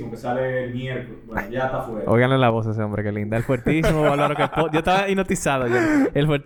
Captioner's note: laughs